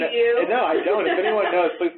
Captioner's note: laughs